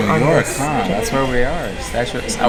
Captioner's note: Sracastic